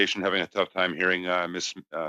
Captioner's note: speaking French